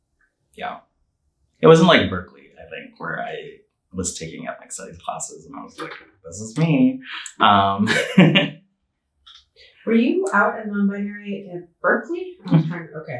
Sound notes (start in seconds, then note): 8.9 chuckling